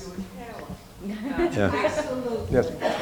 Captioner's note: laughing